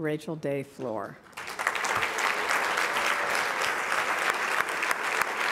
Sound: applause

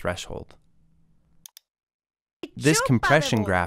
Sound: foreign language 00:07:38

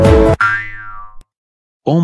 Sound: boing

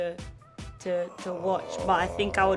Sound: Tenoch groans

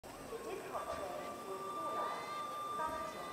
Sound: whistle blowing

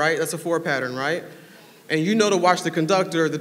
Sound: none

